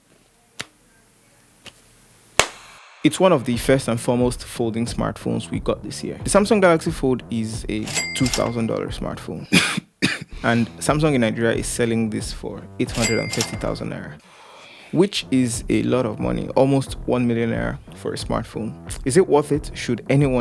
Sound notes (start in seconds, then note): 9.4 cough